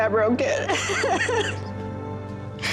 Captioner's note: tearful chuckle